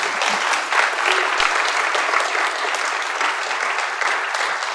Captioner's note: audience claps loudly